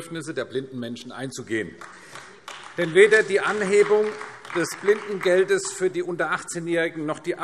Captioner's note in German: Beifall AfD